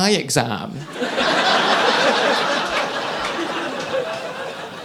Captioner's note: audience laughing